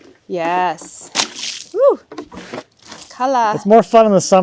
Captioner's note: liquid splashing